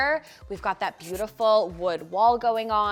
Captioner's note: marker skritching